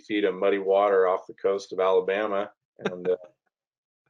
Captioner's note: laughing